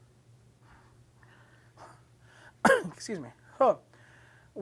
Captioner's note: coughs